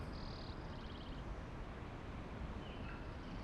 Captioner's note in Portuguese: pássaros cantando